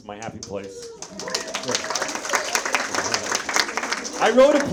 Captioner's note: audience members applauding